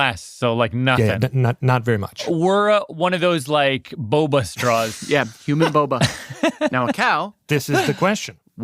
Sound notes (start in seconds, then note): 5.6 laughs